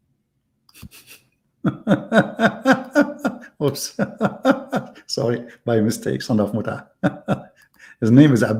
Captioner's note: Ketawa